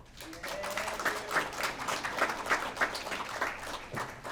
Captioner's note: applause